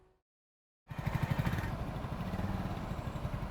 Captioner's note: motorcycle revving